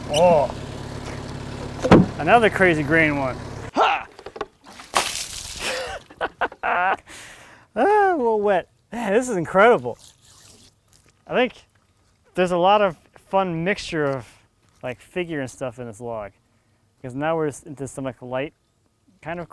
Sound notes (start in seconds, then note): 1.6 wood thuds; 3.8 water sloshing; 5.6 laughs